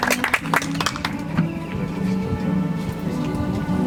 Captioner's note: audience applauds